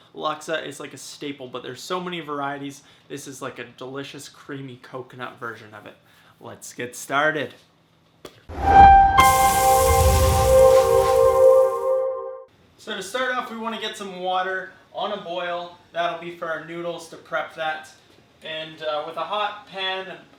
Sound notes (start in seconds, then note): 8.5 pan sizzling; 8.5 instrumental music